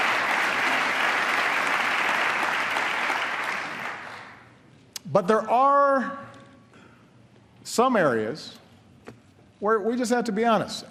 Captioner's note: applause